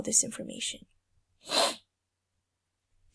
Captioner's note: sniff